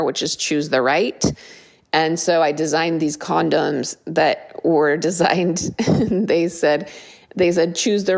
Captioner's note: laugh